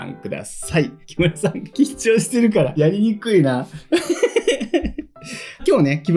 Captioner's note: laughs